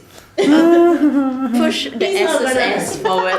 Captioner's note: whimpering trails off